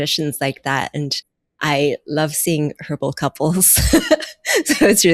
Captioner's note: laughing